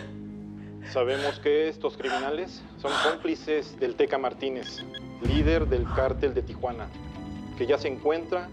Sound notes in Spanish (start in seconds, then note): 0.0 llanto; 0.8 voz en la tv